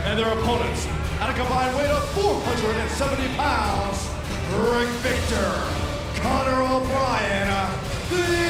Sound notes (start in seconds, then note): 1.0 crowd cheering